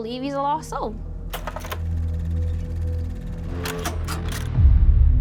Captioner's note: film reel clacking